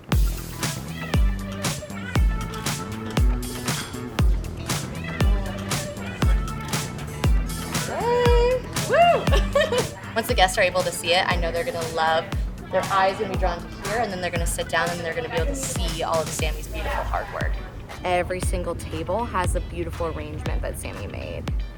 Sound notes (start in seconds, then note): 0.2 dynamic music; 7.8 laughs